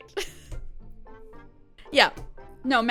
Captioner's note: laughs